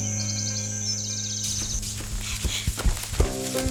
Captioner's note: birds; dry ground noises